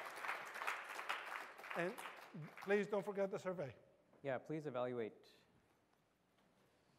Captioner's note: applause